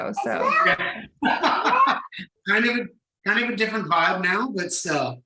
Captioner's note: laughs